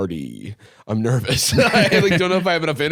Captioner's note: laughs